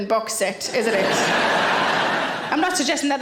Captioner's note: audience laughing